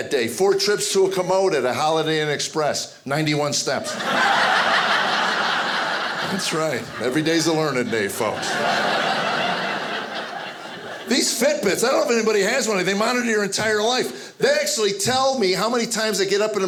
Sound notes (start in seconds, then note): 3.9 audience laughing; 8.5 audience laughing